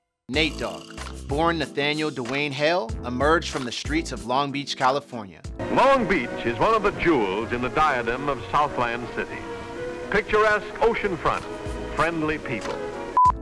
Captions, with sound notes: Nate Dogg, born Nathaniel Dwayne Hale, emerged from the streets of Long Beach, California. - [Voiceover] Long Beach is one of the jewels in the diadem of Southland City. Picturesque oceanfront, friendly people.